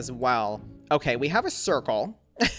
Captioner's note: laughs